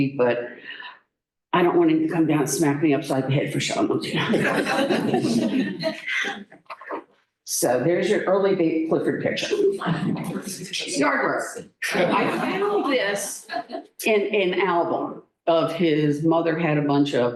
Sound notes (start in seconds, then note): 4.1 laughter